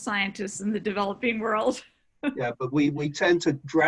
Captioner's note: laughs